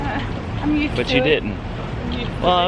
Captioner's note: laughs